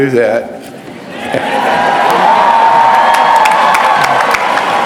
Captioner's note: cheering